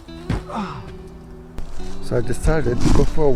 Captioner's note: grunts